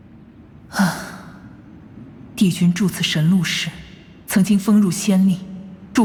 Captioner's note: sigh